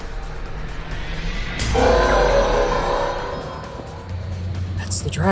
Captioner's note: infinity roars